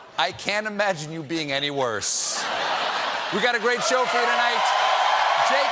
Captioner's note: laughter